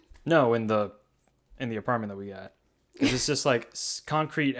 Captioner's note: laughs